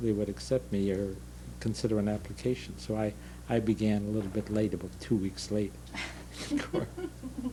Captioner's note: laughter